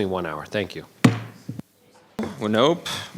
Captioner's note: gavel banging